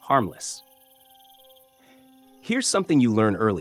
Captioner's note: pause